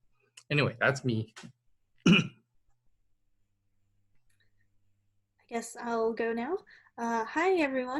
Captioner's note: cough